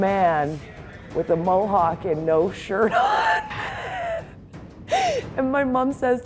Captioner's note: laughter